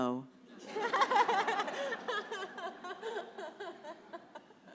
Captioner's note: congregation laughs